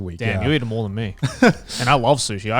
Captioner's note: laughs